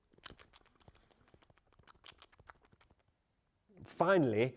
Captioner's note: chewing sounds